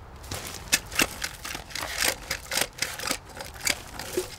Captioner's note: coating clattering